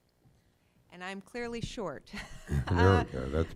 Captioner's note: laughing